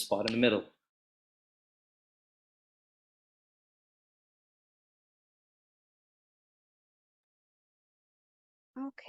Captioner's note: silence